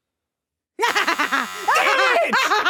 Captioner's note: chuckling; buzzer buzzing